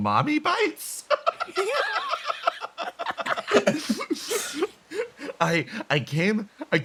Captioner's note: laughs